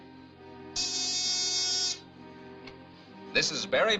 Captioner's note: buzzer buzzing